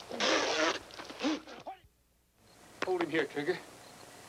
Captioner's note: Sparrow spitting